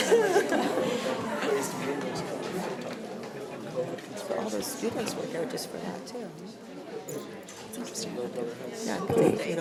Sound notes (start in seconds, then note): 0.0 attendees chattering